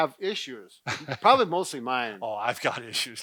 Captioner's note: chuckles